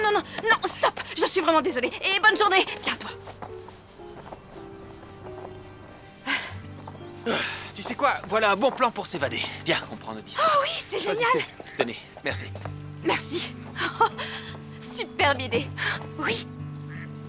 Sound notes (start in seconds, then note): 7.2 sighs; 13.0 laughs